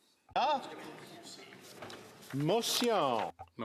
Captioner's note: speaking French